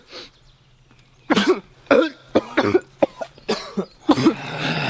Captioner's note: coughing